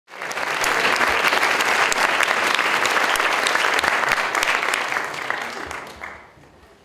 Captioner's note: audience Applauding